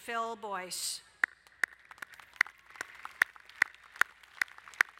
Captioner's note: applauding